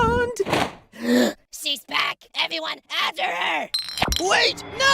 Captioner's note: gasp